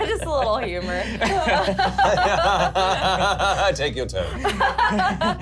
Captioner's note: laughs